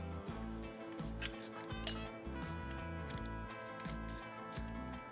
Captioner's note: metal clanking